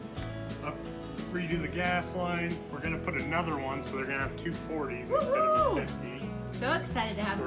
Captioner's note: woohoo!